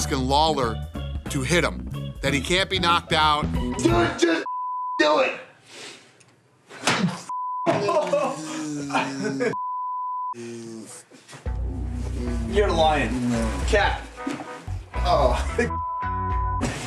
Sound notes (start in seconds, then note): 7.7 laughs